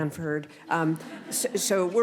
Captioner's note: laughter